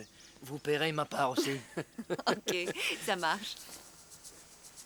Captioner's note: laughing